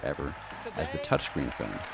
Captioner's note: audience clapping